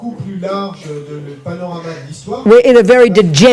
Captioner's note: speaking in French